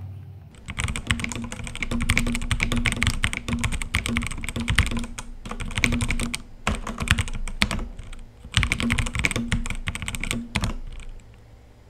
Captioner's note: keyboard sounds